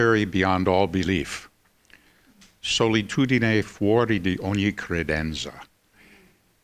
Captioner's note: speaking in foreign language